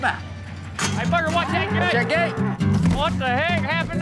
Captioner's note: thud, mooing